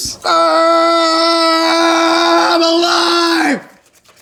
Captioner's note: yells